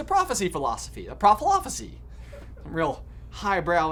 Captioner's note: crew member laughing